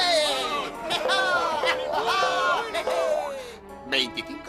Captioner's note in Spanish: ríe